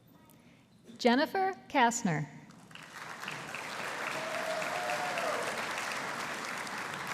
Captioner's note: audience applauding